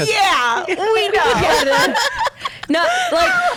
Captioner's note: laughs